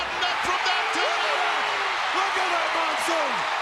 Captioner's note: crowd cheers